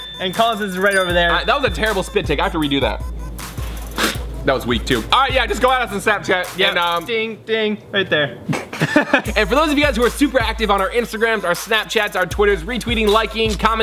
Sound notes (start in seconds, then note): 3.4 spits; 8.5 laughs